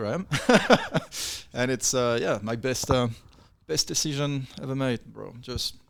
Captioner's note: laughs